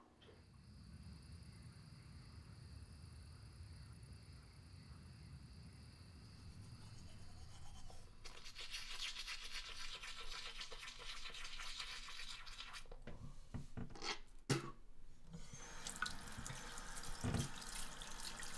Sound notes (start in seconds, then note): 0.1 crickets; 6.5 brushing teeth; 15.2 water running